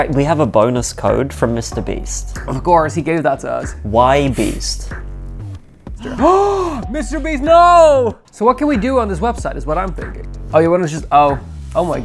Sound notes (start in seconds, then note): 5.9 gasping